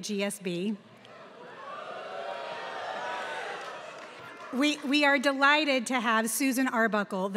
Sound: applause

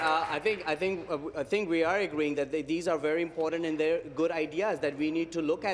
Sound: applause

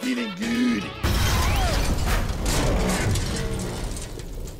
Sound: ka-boooom booom

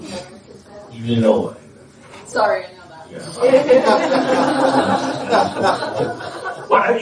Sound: laughter

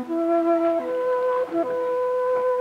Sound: paddles splashing water

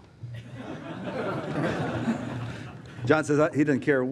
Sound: crowd laughs

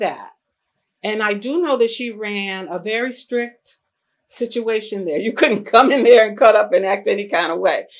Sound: laughs

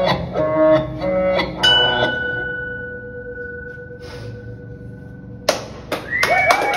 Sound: ding!

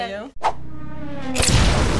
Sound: revving; boom!

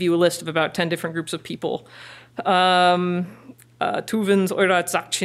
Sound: foreign language

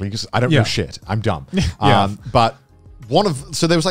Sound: laughing

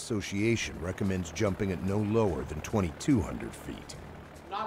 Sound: voiceover

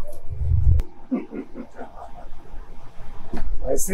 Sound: Billy Butcher snickers

